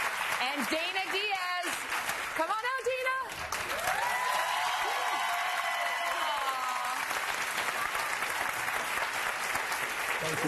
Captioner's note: applause